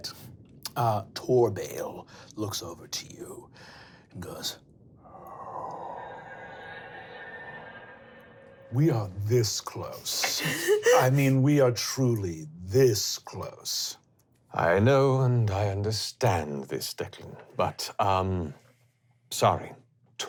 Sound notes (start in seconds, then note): 5.1 powerful inhale; 9.7 laughing